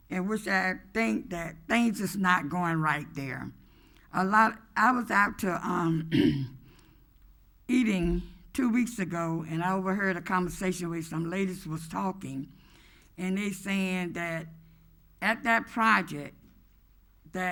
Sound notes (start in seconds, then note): 6.1 clears throat